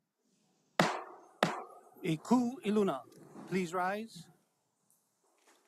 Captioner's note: gavel bangs twice